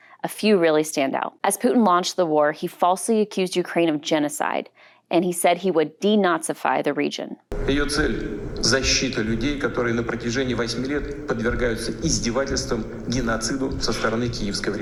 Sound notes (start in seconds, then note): 7.7 Putin speaking Russian